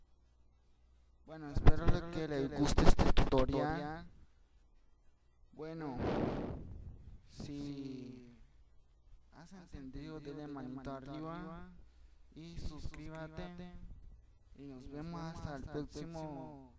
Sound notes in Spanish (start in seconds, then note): 3.0 Respiración